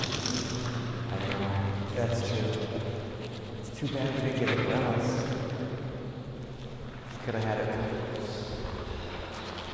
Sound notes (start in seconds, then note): 1.6 sounds of leaves crunching